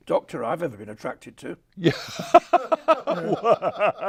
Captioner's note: laughs